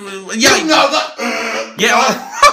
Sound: Attempted Wookie Noise; Ben's laughter

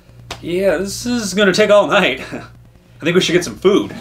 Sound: chuckles

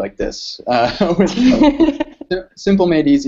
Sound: laughter

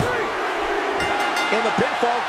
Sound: bell dings

